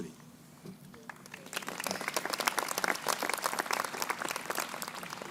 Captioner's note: crowd applauding